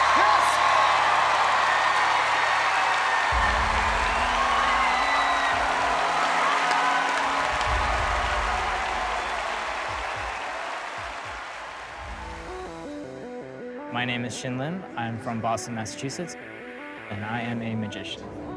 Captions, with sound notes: Heat. [cheering] [cheering] [applause] My name is Shinlim. I'm from Boston, Massachusetts. And I am a magician.